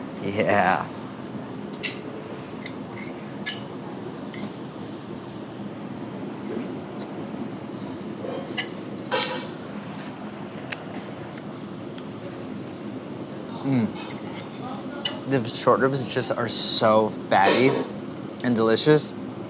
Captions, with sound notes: Yeah. [utensils clattering] [chewing] The short ribs are so fatty and delicious.